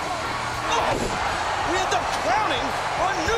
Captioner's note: mat thumping